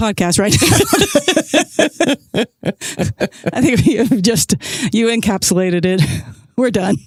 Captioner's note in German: Lachend